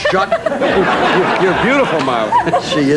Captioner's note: everyone laughing